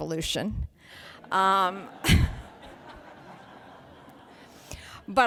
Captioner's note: laughing